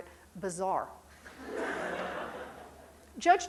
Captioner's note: crowd laughing